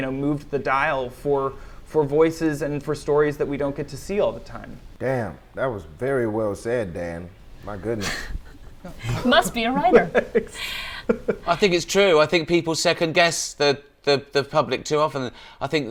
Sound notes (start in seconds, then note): 7.8 laughs; 10.7 Dan laughs